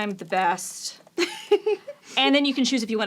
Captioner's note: laughs